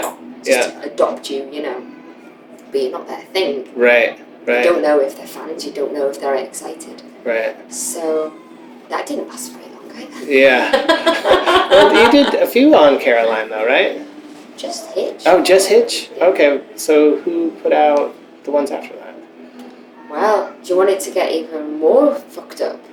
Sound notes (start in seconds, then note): 10.5 laughter